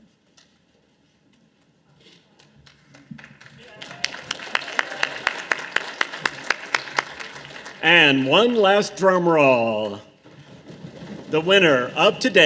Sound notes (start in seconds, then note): 2.6 audience applause; 10.4 audience drumroll